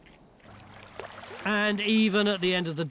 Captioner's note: water laps